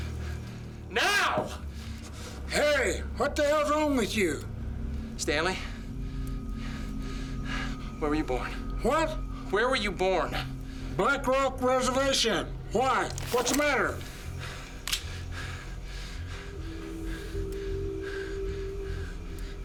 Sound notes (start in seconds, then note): 14.8 cocks gun; 16.4 breathing hard